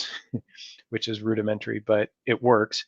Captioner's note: chuckles